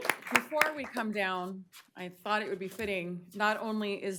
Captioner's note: applause